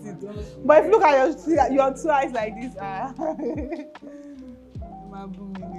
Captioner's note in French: rires